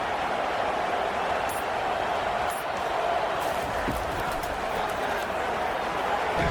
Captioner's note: crowd Noises